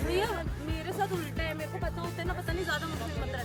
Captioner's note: laugh